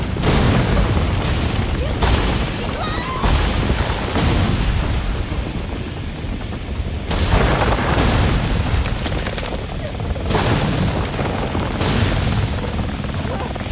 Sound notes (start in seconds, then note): 2.6 screams